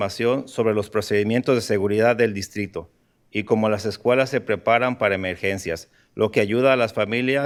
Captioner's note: speaking in spanish